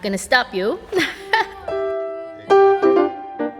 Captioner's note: chuckles; piano music playing